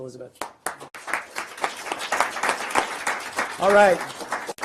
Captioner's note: group applauds